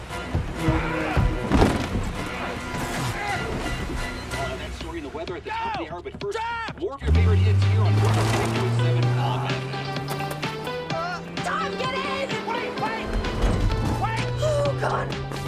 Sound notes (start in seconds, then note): 3.3 over radio